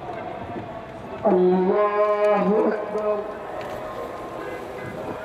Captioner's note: prayers